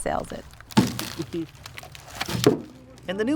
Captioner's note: rustling